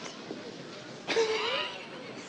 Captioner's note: laughs